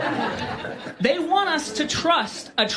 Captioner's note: audience Laughing